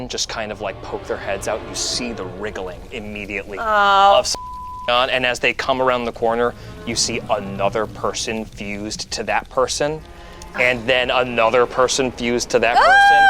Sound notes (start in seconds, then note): 4.2 beeps